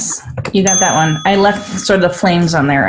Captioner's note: ding